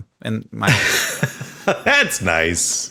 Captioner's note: Sam laughing